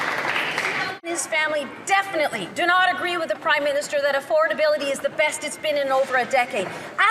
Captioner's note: some Applause